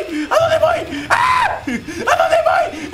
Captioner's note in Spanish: Grita